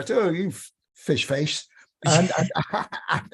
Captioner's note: laughter